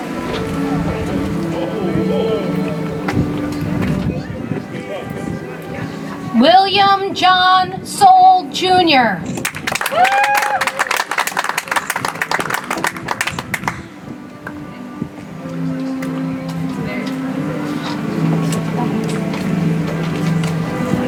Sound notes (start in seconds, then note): 0.2 soft music; 12.9 audience applauds; 17.8 soft music